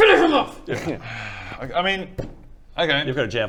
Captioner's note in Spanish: suspiro